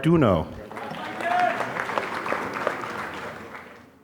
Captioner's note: applause